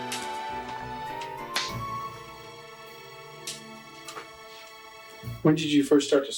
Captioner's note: fingers clicking